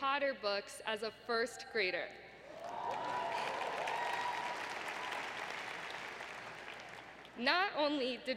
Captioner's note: applause